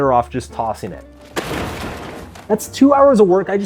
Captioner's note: appliance crashes